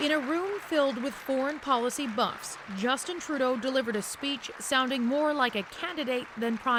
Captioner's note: applause